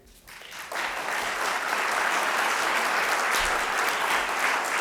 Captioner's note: audience applauding